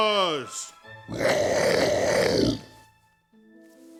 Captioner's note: growling